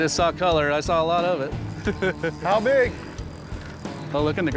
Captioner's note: laughing